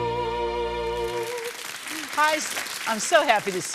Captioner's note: audience applauding